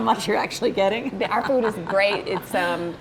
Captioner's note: laughs